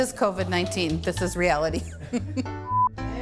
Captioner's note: laughing